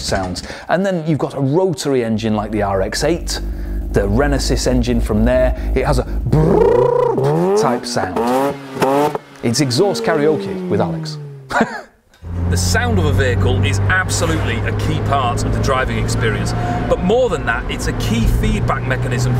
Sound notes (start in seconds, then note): 6.3 imitating engine; 11.4 laughing